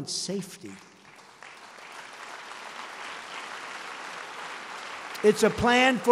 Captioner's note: applause